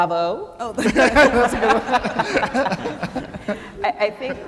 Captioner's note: laughing